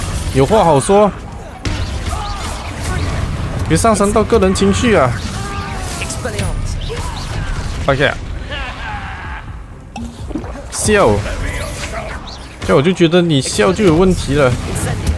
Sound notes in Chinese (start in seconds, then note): 8.4 哈哈!!